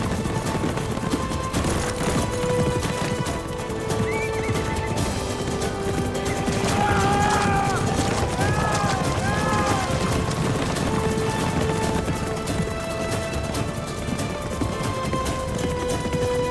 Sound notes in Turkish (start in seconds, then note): 0.1 Müzik - Heyecanlı; 6.3 Bağırma sesleri; 7.1 At nalı sesleri